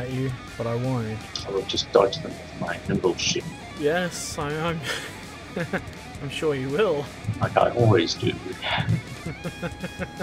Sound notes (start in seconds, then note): 4.8 chuckle; 8.7 laughter